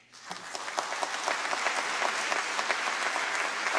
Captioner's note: applause